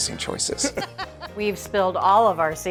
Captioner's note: cooks laughing